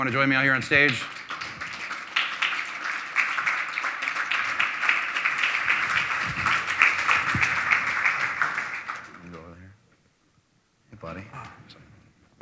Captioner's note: applause